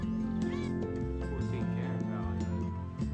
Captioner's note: people chattering